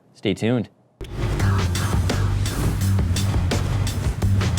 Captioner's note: whooshing